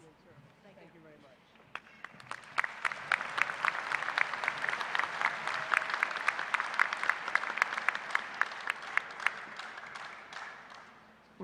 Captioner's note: applause